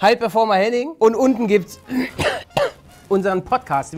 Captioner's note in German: Husten